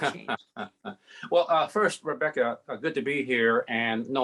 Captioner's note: laughs